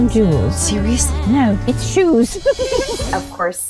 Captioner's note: laughing